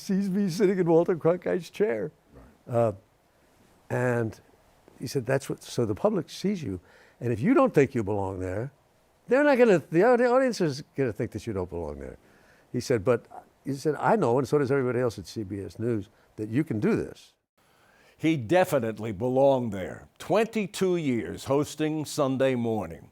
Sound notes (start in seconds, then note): none